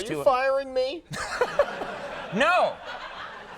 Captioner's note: Conan chuckles; audience laughing